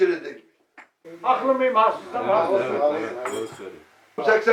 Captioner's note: crowd